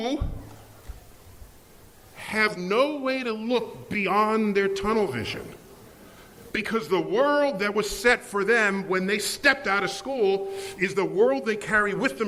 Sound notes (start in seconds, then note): none